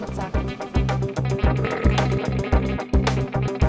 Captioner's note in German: Rülpser